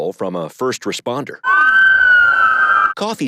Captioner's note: sirens wail